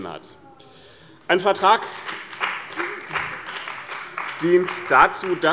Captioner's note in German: Beifall bei dem BÜNDNIS 90/DIE GRÜNEN und der CDU